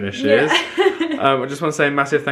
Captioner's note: laughs